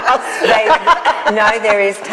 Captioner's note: group laughs cheerfully